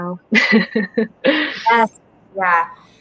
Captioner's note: laughs